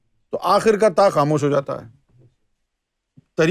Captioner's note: in Arabic